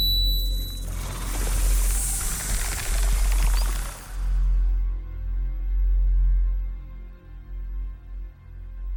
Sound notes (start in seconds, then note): 0.9 snake rattles; 1.0 snake hisses